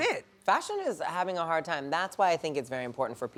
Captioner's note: none